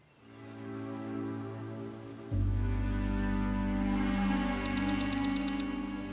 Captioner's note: soft pensive music playing; birds chirping